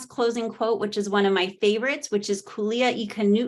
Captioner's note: speaking Hawaiian